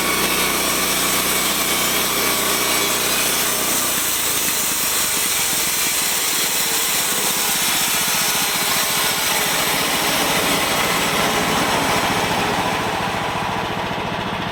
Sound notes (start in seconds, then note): 1.7 machinery noises